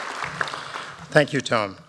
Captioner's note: applause